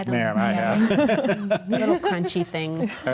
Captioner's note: group laughs